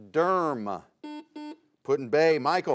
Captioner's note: buzzer sounds